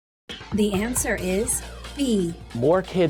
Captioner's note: female announcer speaking